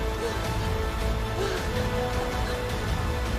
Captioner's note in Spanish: Quejidos